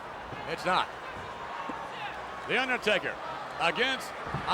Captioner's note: applause